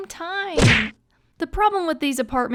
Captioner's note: door slam